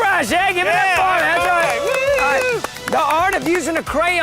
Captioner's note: contestants clapping